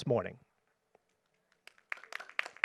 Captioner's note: applause